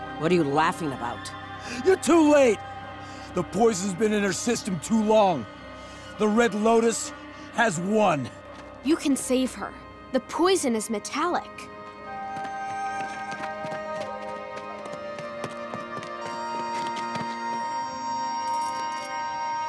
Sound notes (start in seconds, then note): 12.0 running footsteps; 12.3 hopeful music